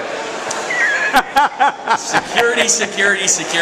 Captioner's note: laughter